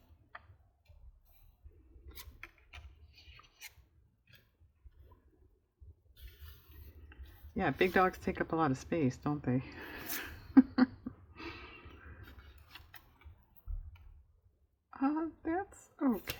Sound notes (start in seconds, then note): 10.5 laughs